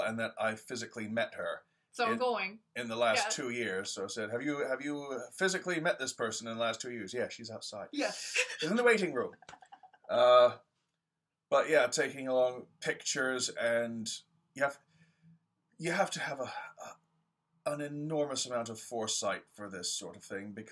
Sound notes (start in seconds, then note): 10.1 laugh